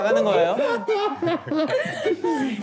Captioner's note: dying of laughter